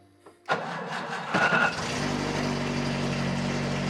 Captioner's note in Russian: шум мотора